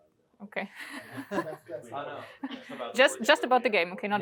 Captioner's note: laughter